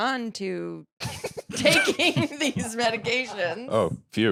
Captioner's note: laughs